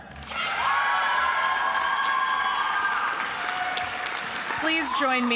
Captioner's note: attendees applauding and cheering